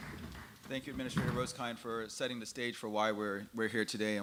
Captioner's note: applause